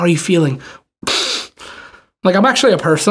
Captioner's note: chuckles